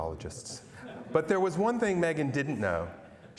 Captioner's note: laughter